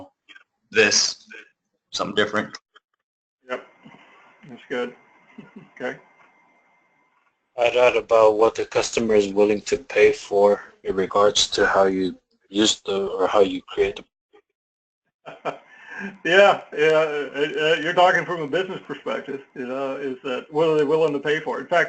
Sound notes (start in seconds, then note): 15.2 laugh